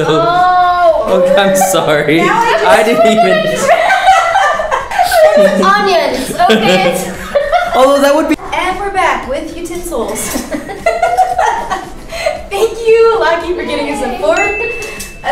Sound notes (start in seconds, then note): 4.3 altogether laughing; 7.2 laughs; 10.3 both laughing